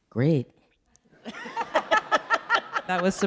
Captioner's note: audience laughing